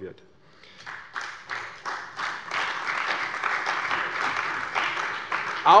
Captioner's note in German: Beifall bei der CDU und dem BÜNDNIS 90/DIE GRÜNEN